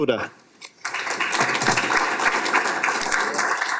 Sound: applause

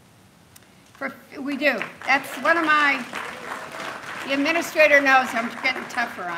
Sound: applause

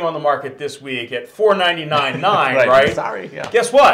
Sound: laughs

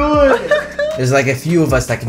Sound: laughs

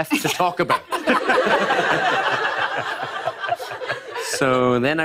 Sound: laughter

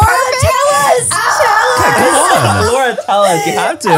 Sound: yells

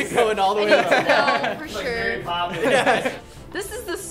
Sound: laughter

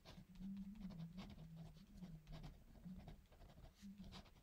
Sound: pen scratching

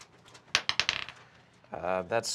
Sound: die clacks

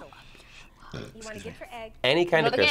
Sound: burps

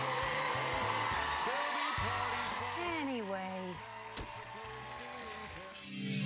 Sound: cheers and applause

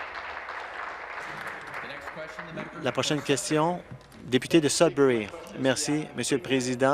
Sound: applause

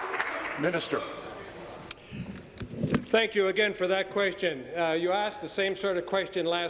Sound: applause

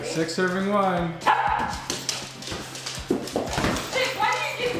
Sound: dog barks

